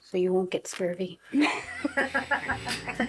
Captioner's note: laughs